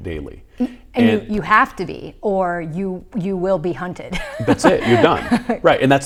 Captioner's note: laughs